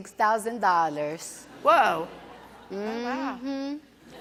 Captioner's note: audience laughs